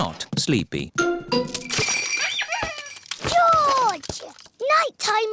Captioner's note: bells ring and toys squeak